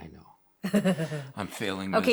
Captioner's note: laughs